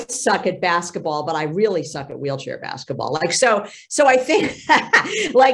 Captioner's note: laughs